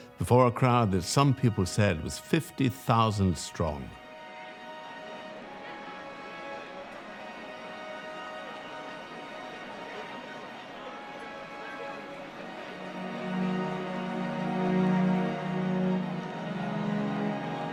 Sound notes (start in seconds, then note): 4.4 chattering; 4.4 dramatic music